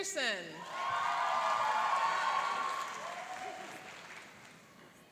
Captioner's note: cheering and applauding